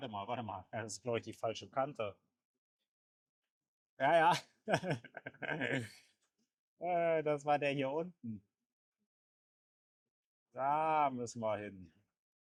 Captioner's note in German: gelächter